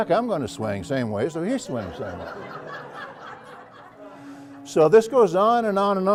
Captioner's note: laugh